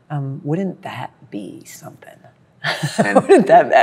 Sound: laughs

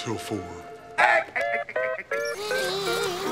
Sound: laughing

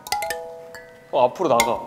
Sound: knock knock

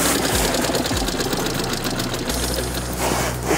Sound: engine stops

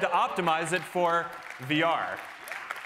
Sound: cheering

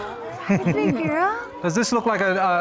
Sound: audience exclaiming; laughter

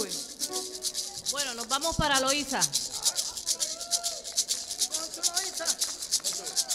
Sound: woman speaking in Spanish; audience clapping; maracas rattling

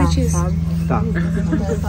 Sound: indistinctive chatter in the background

